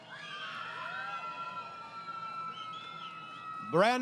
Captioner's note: crowd Cheering